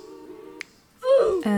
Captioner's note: oof